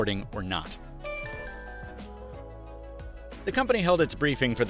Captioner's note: rhythmic electronic beeping